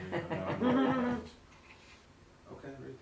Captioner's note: laughing